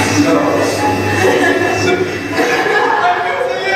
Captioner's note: laughing